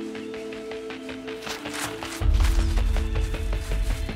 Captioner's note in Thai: เสียงฝีเท้า